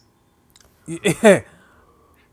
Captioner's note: laughs